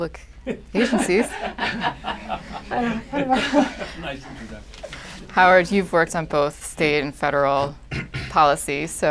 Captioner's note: laughter